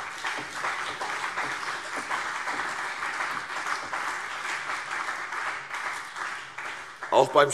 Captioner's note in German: Beifall CDU und BÜNDNIS 90/DIE GRÜNEN